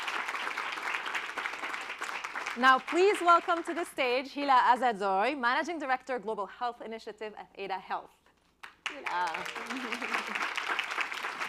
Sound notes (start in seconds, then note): 0.0 applause; 8.6 applause